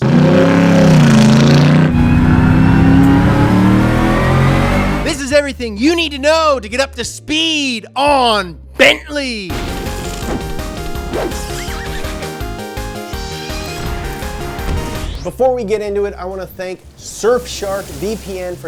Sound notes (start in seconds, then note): 0.0 engine revving; 9.5 lightning crashes; 11.1 whimsical music